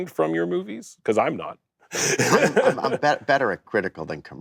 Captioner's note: laughs